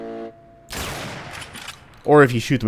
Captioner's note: bam